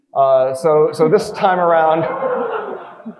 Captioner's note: audience laughing